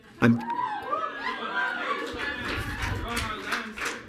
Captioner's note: audience cheering